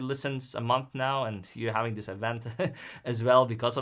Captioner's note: chuckles